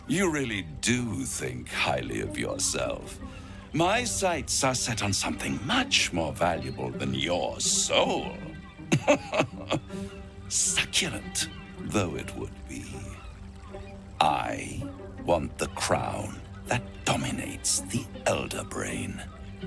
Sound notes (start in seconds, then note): 8.8 laughing